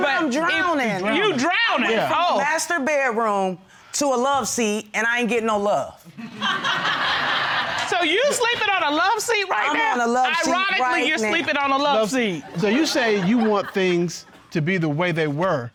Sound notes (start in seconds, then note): 6.1 laughter